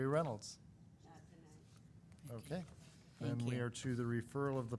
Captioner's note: woman speaking faintly